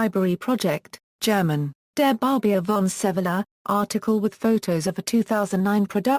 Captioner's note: German